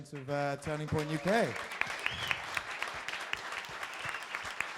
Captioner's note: crowd applauding